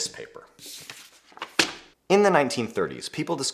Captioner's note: paper rustling